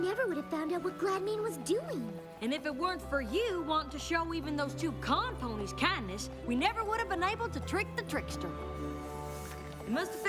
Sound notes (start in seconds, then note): none